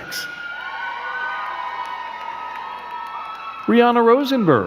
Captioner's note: crowd cheering and clapping